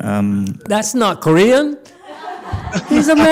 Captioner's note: audience laughs